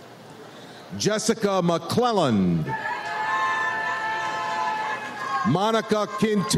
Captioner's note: audience cheers